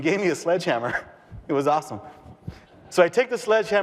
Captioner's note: audience laughter